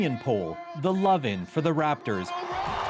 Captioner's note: cheers and Applause